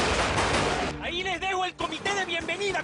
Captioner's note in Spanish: Disparos